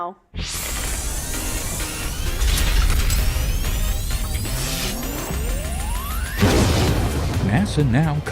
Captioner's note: sound Effects